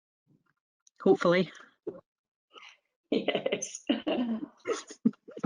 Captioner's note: laughs